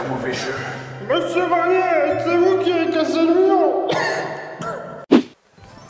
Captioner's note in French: toux